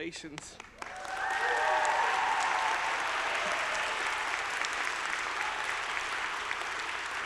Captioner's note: audience applauding; audience cheering